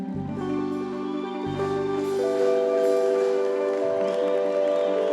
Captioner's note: audience applauds